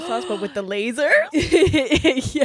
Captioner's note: gasps